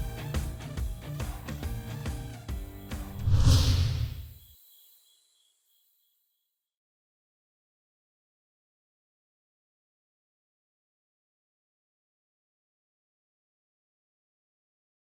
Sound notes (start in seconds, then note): 0.0 rock music; 3.1 logo wooshes